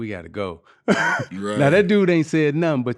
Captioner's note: laughing